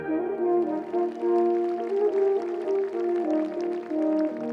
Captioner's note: audience applauding